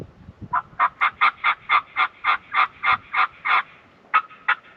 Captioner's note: squawking continues